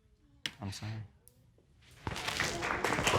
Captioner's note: audience applauding